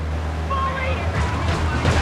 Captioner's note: car engine roaring